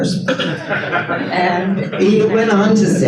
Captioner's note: audience laughs